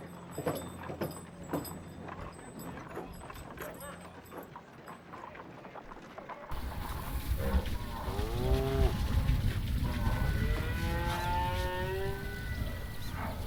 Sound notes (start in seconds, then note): 6.5 cattle bellowing